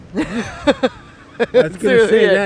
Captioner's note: laughs